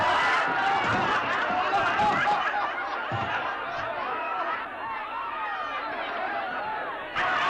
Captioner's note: crowd laughs; crowd woos & laughs